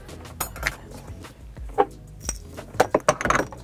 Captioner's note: bottles clink